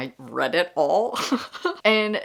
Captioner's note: laughing